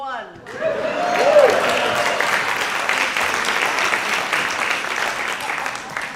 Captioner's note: audience applauding